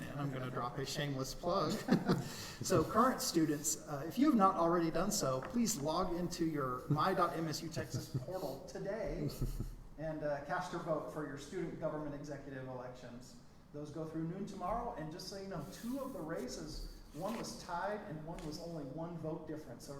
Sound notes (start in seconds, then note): 1.7 chuckling